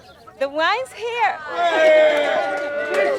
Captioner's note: cheering